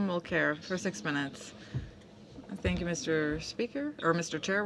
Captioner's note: speaking French